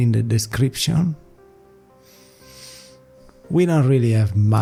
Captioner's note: breathing